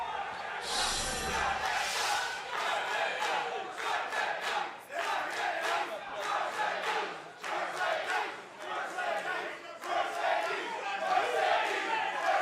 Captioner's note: fans chanting